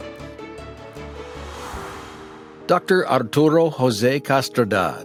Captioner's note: air whooshes